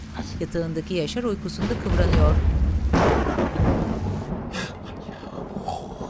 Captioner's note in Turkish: Gök gürültüsü sesi